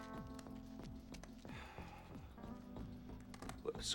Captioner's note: huffs